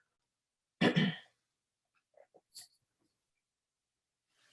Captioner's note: clears throat